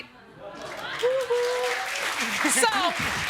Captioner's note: audience clapping